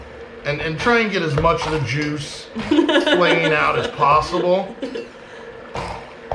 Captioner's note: giggling